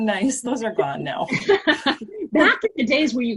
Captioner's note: laughter